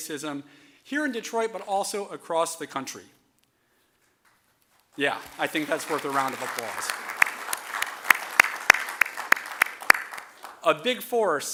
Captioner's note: applause